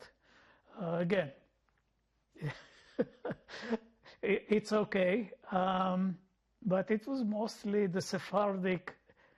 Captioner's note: laughing